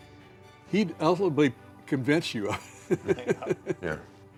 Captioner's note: laughs